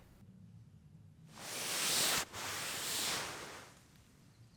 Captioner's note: sound of sleeping bag shifting